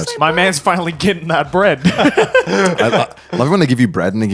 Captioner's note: laughs